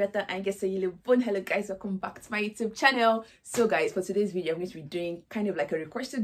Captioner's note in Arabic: بالإسبانية